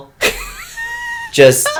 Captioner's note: wheezing laugh of knowing